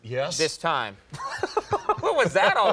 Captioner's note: laughter